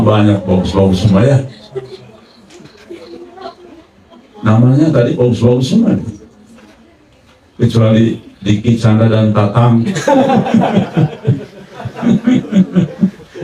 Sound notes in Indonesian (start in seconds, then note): 11.6 tertawa